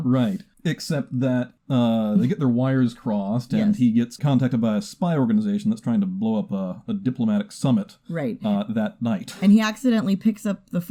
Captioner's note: chuckles